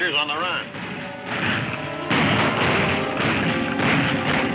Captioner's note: guns firing